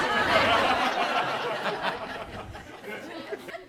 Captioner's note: audience laughs